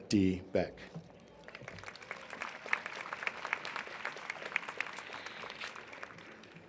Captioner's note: applause